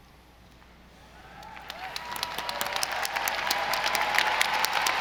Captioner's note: audience applauding